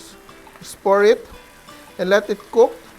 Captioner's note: sizzle